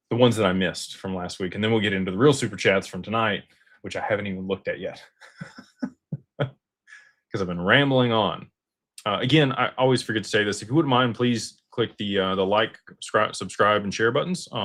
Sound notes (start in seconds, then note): 5.2 laughter